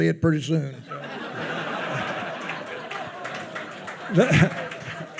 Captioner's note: attendees laughing